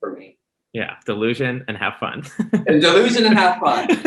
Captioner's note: laughs